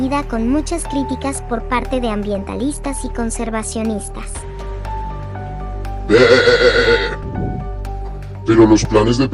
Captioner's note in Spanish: Beeeeh